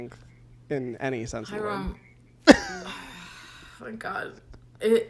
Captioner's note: groans